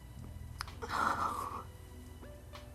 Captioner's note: exhales